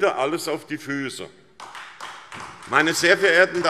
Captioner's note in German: Beifall SPD